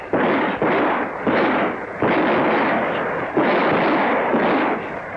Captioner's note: gun shots